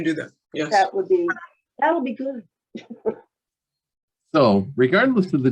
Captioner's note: chuckles